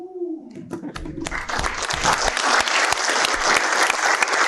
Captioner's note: applause